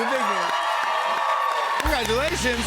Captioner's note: cheers and applause